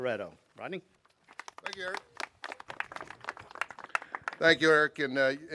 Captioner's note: clapping